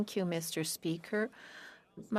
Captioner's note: speaking French